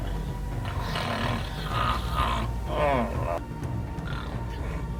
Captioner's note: snores